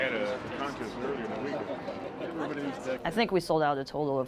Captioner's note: chatter